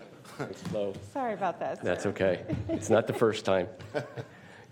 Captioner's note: laughter; laughter